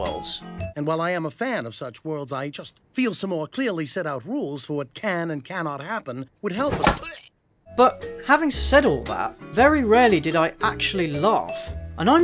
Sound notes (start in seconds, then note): 6.6 thud